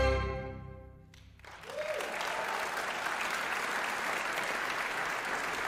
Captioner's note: cheers and applause